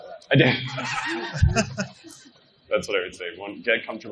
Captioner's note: laughing